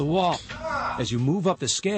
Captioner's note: man yells